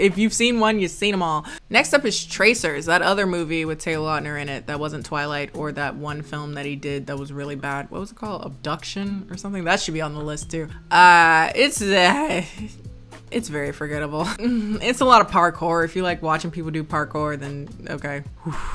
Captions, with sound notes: If you've seen one, you've seen them all. Next up is Tracers, that other movie with Taylor Lautner in it that wasn't Twilight or that one film that he did, that was really bad. What was it called, Abduction or something? That should be on the list too. It's (sighs) it's very forgettable. (sighs) It's a lot of parkour. If you like watching people do parkour, then, okay.